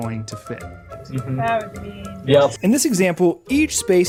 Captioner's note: group chattering